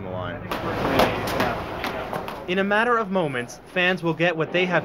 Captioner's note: plastic swords hit each other